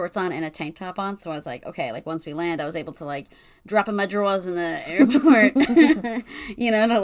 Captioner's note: laughs